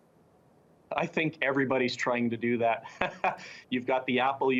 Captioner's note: laughs